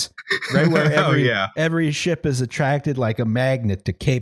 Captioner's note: laughing